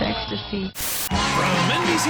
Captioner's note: static